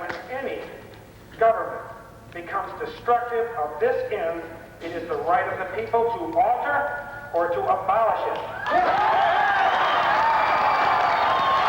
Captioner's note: massive applause